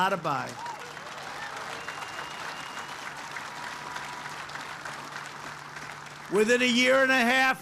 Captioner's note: applause